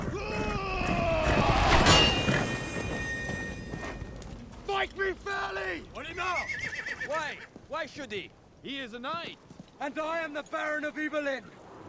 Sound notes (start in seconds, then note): 0.1 yelling; 5.9 speaks in arabic